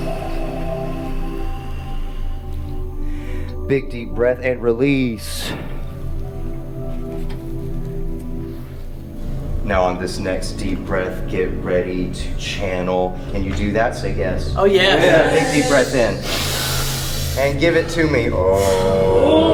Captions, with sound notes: Big, deep breath and release. Now on this next deep breath, get ready to channel. Can you do that? Say yes. - [Crowd] Oh yes. - Big, deep breath in and give it to me, oh!